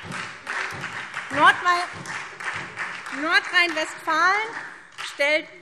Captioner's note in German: Beifall SPD und vereinzelt DIE LINKE